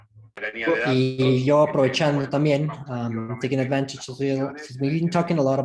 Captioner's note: foreign language